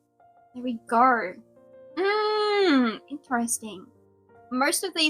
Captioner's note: hums